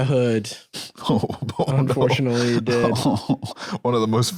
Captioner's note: laughing